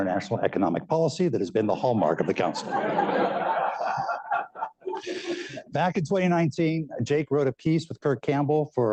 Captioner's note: laughter